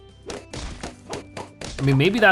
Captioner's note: balloons popping